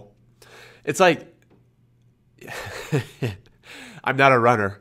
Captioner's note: laughs